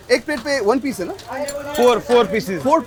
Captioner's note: host and cook speak foreign language